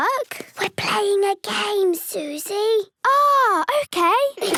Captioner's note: whispering